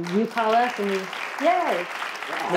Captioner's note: crowd claps